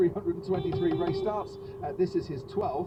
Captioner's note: beepbeepbeepbeep